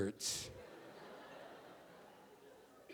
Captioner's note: audience laughing